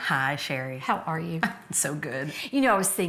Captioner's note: none